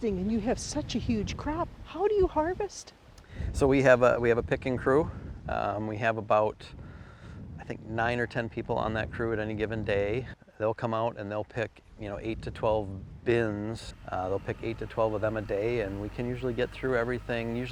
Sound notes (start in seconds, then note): 13.2 tractor rumbling